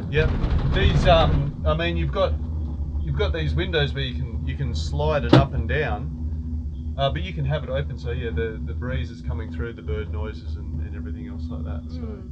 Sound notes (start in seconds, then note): 5.2 window slams; 12.1 birds chirp